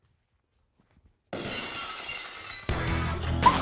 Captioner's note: glass shatters; laughs; dynamic music